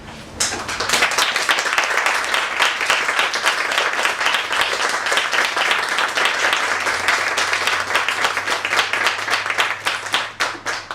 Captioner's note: applause